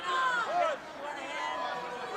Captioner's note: crowd chatter